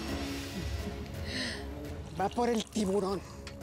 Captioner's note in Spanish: sonido al verter el licor